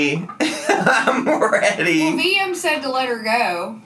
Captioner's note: laughs